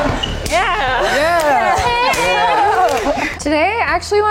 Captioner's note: all cheering